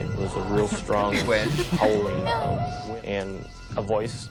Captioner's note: laughs